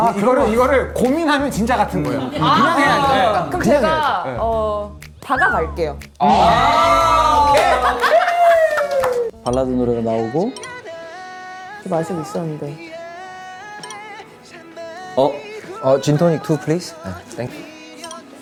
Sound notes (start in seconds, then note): 6.8 laughing